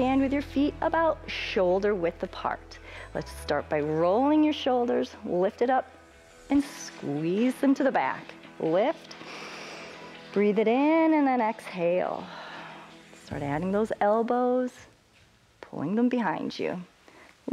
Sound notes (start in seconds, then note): 9.2 inhales; 12.3 exhales